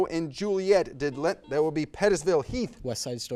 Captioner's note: buzzer buzzes